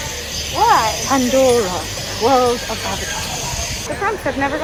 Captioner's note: announcer voice